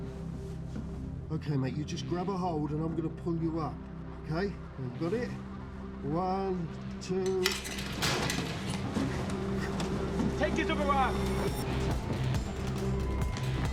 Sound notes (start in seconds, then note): 7.4 grate being pulled away